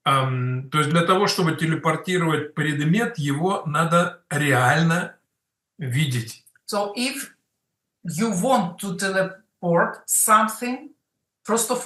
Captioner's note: Russian